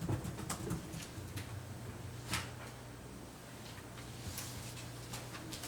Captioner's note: documents shuffling